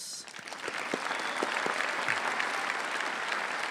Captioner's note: applause